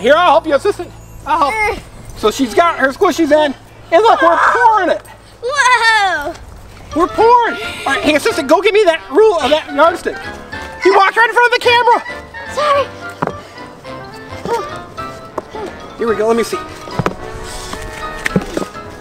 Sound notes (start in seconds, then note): 14.6 assistant grunting